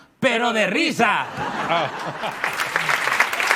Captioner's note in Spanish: Risas y aplausos